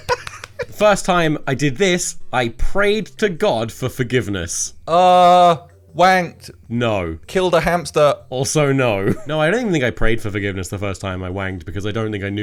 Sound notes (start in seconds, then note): 0.0 laughs; 0.2 claps; 8.4 laughs